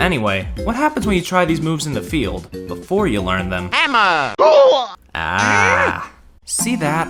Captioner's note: funny Mario pain noise